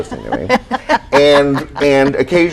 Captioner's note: laughs